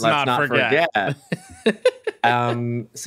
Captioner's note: chuckles